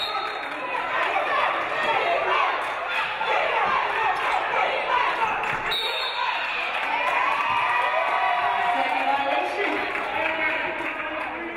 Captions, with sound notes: (referee blows whistle) (referee blows whistle) (audience cheering) Second violation.